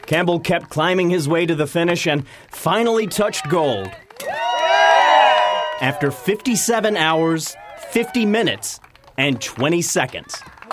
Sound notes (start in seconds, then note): 4.4 crowd cheering